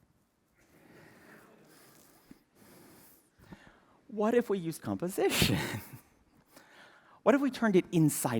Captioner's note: laughter